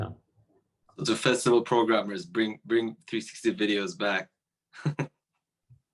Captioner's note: laughing